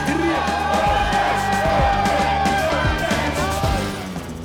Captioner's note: all cheering